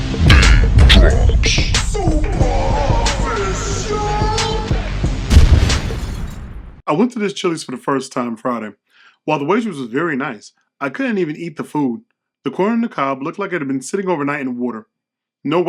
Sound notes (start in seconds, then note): 5.3 glass shattering; 5.3 fire blazing